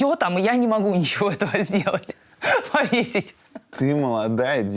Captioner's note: laughs